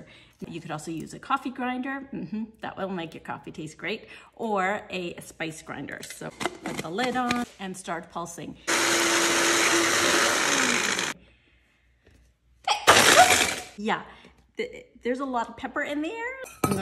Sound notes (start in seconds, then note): 8.7 grinder whirs... sneezes again